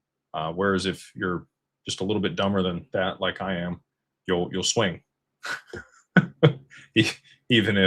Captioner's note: laughter